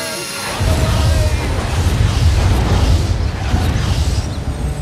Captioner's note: explosion